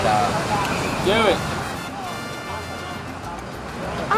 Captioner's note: voiceover